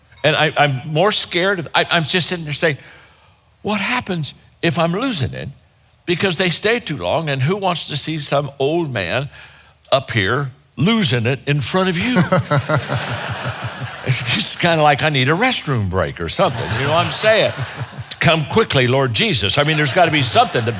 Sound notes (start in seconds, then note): 12.0 chuckling; 12.0 audience laughing